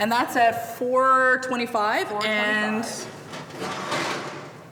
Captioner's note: pan rattling